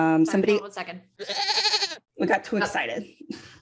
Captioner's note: goat noise